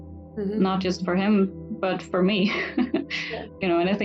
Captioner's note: laughs